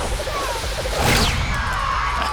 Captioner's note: crash; cheering